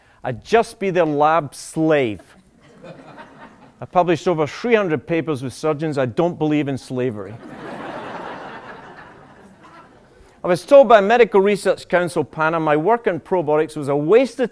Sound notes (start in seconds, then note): 7.3 laughter